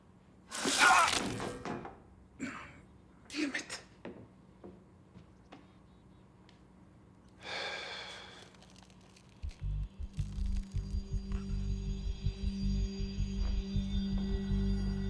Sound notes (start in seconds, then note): 0.6 Daniel screams; 7.4 exhales; 8.1 squelching